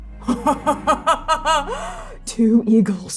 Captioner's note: triumphant laughter